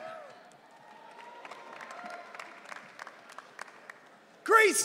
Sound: audience cheering

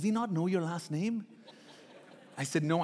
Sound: laughing

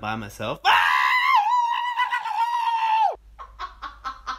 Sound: screaming

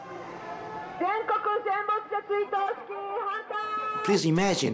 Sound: people shouting in foreign language

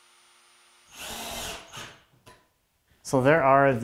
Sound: drill whirring

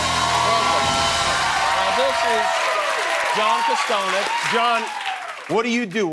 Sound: cheers and applause

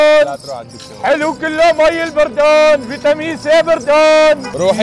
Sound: continues shouting; shouting

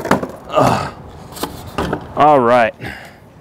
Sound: grunting

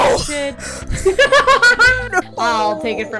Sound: laughing

